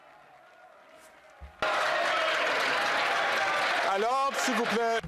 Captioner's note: some Applause